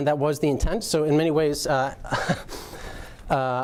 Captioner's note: chuckling